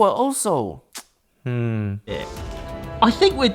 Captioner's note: teeth clicking